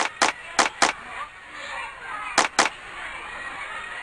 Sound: hands clapping

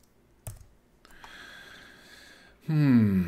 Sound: keyboard clicking; inhales sharply

